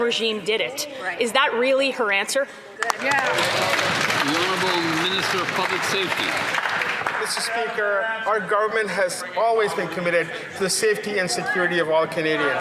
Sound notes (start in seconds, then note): 7.7 some Applause